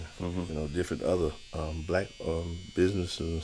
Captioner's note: none